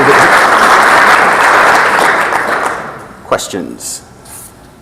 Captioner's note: audience continues to clap